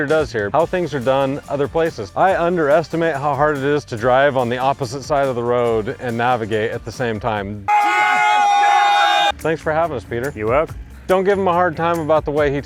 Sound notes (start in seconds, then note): 7.6 both screaming